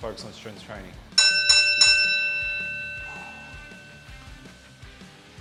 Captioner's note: bell chimes